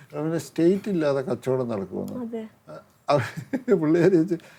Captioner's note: laughs